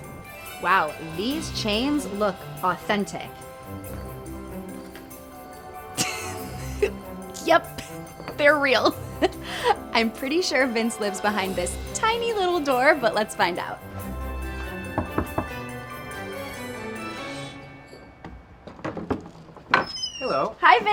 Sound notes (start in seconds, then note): 3.2 vivid whimsical music; 13.9 vivid whimsical music; 14.8 door knocking; 19.4 door creaks open